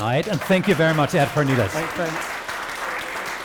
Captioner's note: audience clapping